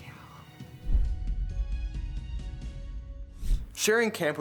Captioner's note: logo thuds